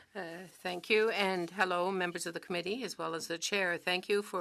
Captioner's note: speaking French